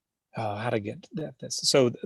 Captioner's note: murmurs